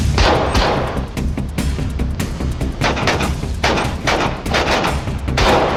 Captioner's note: gunshots